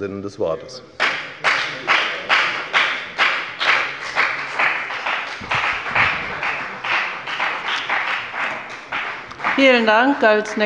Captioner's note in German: Beifall bei der FDP